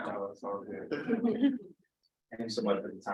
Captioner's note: laughs